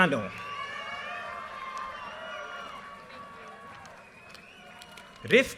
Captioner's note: audience cheers and applause